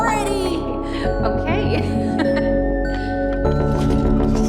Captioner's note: laughing